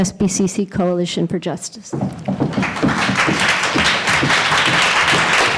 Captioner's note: applause